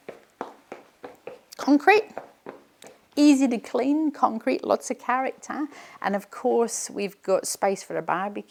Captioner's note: foot tapping